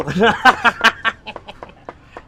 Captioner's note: laughs